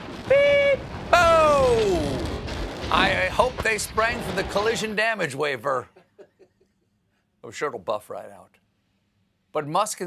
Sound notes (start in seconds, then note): 0.0 explosion